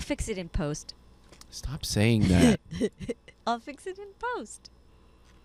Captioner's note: laughing